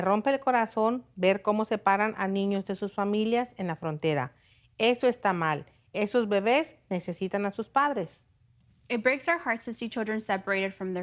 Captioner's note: speaking in native tongue